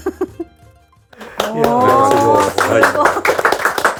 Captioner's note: applause